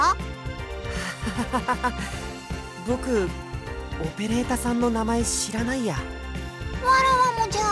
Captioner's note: awkward laugh